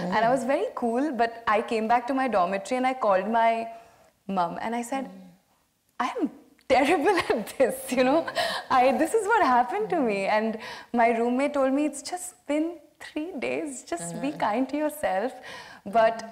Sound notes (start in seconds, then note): 7.8 laughs